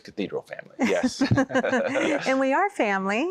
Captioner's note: laughter